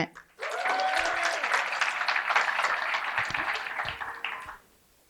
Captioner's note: cheering and applause